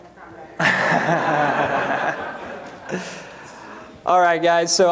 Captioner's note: laughter